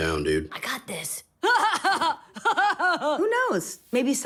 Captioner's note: laughter